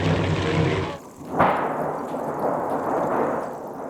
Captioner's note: thunder clapping